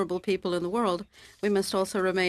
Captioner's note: speaking French